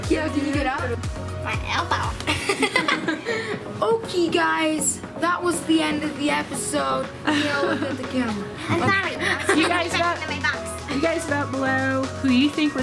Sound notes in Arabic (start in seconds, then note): 2.2 يضحك; 10.1 نفخة